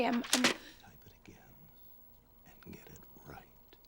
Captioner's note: whispering